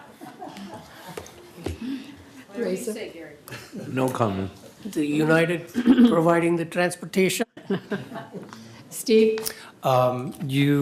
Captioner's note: laughter